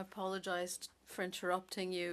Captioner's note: speaking French